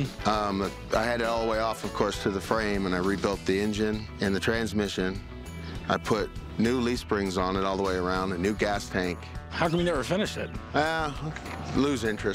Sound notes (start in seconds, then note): none